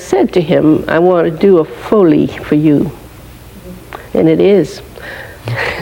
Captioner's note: laughing